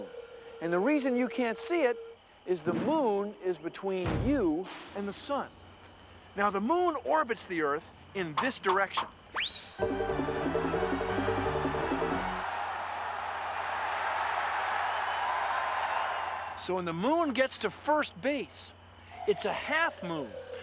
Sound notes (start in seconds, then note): 9.7 <i> organ playing</i>; 11.8 <i> crowd cheering</i>